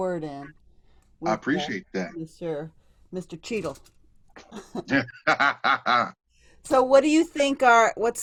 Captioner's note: laughter